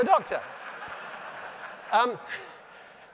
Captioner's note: laughter